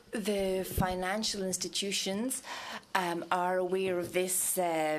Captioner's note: speaking french